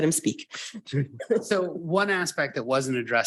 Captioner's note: board members chuckling